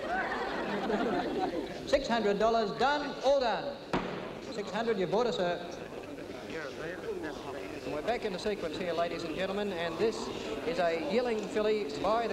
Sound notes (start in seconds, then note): 0.0 audience laughing; 3.9 gavel bangs